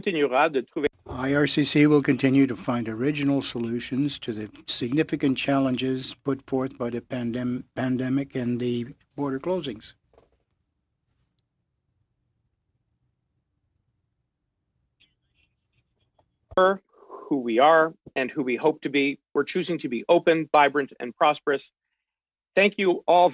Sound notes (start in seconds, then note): 4.7 speaking French